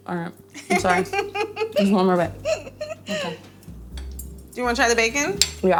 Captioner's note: laughing